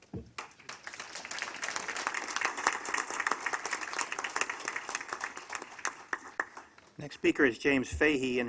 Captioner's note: applause